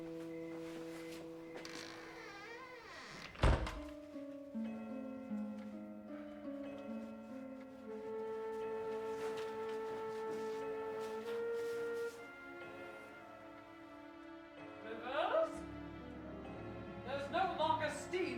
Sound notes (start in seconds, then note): 4.6 clock striking the time